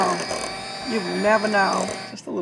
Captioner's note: mixer whirring